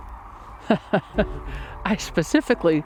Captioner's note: chuckling